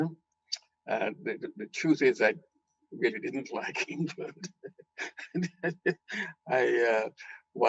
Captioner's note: laughing